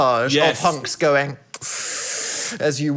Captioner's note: sucking air